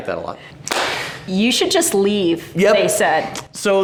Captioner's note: clapping